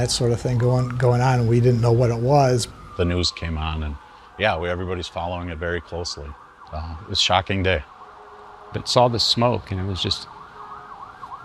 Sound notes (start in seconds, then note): 8.1 sirens wailing continues